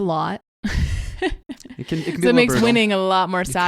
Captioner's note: laughs